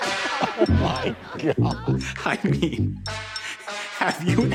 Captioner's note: beep